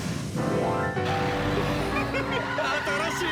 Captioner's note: sound of car chasing